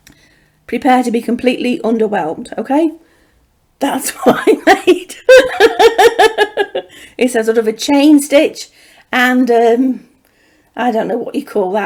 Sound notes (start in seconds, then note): 5.2 laughter